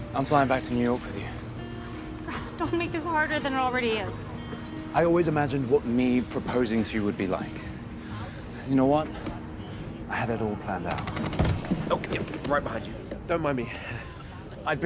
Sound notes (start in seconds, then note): 2.3 chuckling; 11.0 thudding; 14.1 chuckling